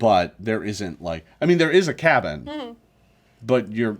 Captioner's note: none